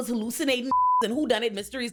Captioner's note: beep